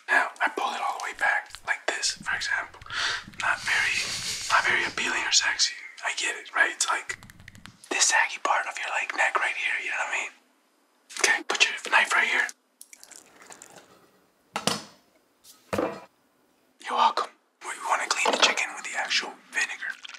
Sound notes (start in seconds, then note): 3.3 someone offscreen laughs; 13.1 chicken skin squishes; 14.6 knife clanks; 15.4 hits block